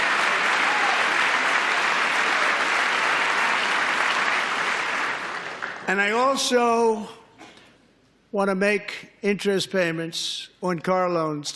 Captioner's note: applause